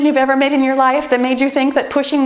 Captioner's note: timer beeps